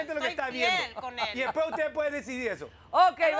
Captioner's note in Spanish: Hablan al unísono